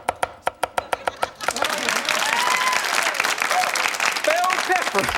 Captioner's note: crowd cheering